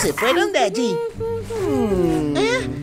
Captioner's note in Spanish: tarareo de cuna